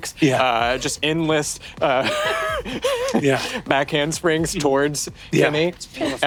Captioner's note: laughs